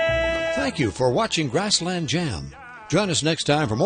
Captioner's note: voiceover